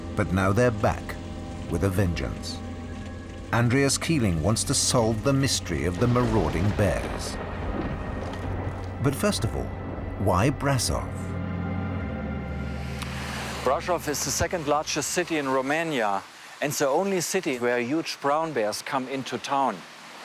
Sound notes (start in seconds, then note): 7.8 thunder rumbling